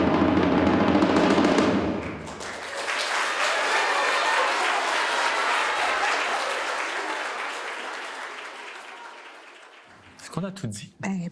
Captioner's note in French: applaudissements